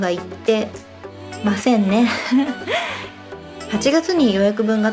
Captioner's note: laughs